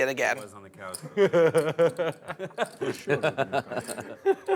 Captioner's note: players laughing